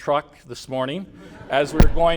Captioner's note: laughter